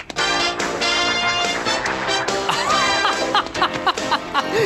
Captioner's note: TV video playing